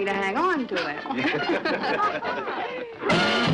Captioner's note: laughing